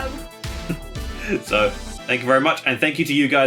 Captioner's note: laughing